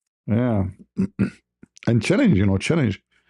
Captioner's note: berdehem